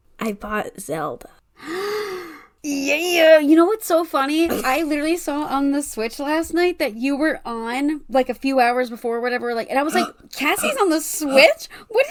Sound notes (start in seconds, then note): 1.6 gasp